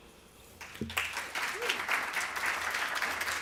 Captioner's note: applause